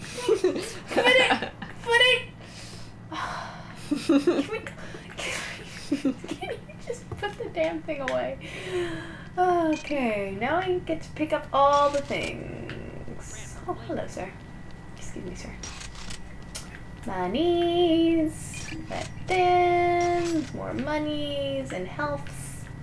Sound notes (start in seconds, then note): 3.1 sigh; 3.7 laughter; 6.4 laughing; 8.4 sighing